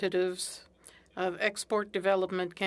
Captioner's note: speaking French